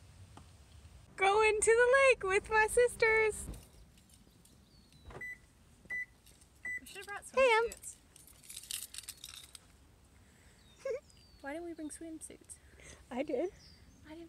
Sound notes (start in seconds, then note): 5.0 car beeps; 10.8 giggles